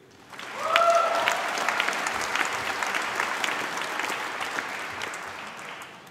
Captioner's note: applause